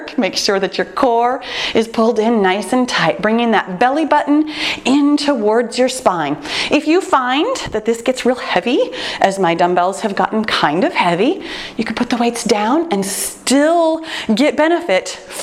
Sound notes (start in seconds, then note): none